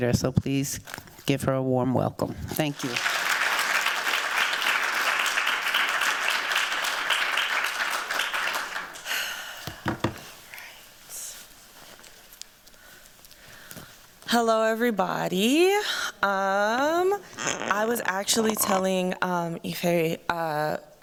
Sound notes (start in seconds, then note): 2.6 applause